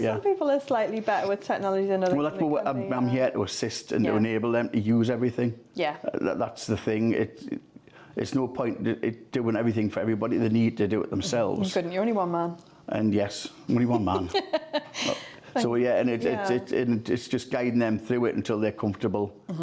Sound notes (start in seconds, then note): 13.8 laughs